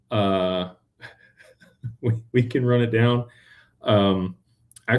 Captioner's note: laughter